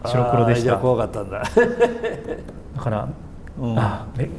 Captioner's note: laughs